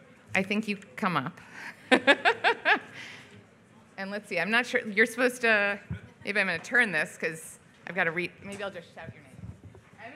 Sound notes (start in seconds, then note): 1.8 laughs